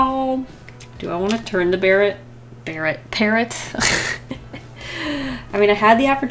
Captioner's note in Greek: Γέλια